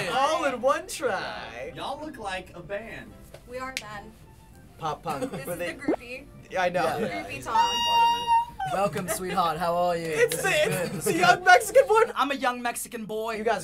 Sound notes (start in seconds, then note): 7.6 girlish squeal; 8.5 British accent